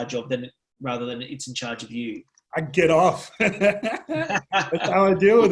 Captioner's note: laughs